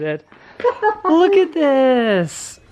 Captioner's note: laughing